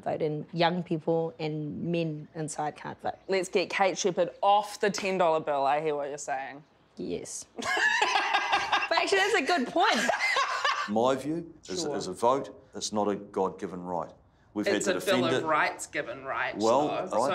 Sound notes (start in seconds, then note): 7.6 all laugh